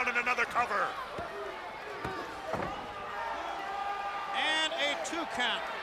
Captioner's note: crowd chatter